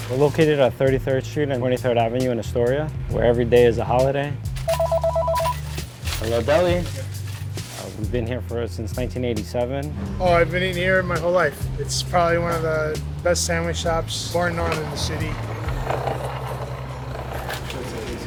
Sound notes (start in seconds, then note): 4.6 phone rings